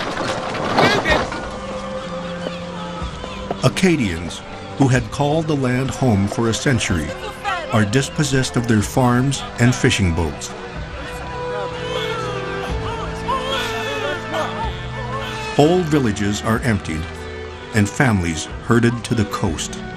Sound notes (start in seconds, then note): 11.7 baby crying